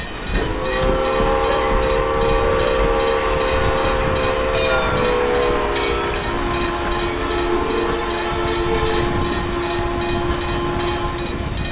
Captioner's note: CNW 2-6-2 whistle